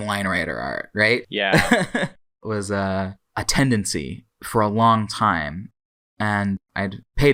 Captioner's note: laughs